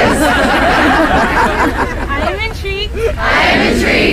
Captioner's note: crowd laughs